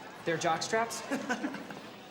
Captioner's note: laughs